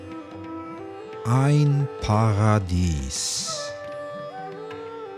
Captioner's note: german